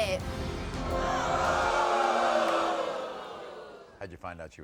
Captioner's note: audience boo's